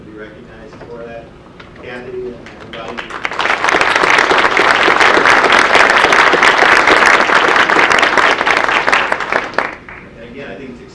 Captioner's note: audience applause